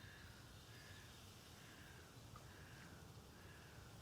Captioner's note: trees rustling